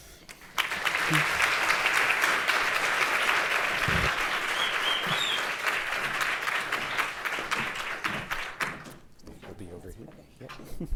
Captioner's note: applause